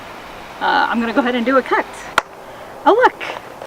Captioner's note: claps